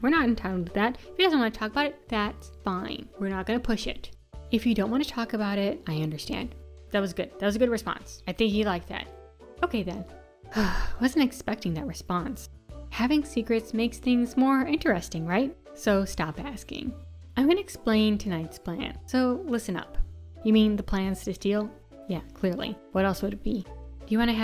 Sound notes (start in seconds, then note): 10.5 sigh